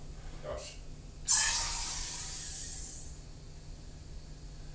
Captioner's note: hissing sound from the sprayer